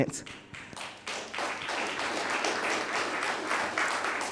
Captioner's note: audience applauding